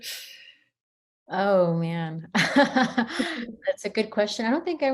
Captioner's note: chuckles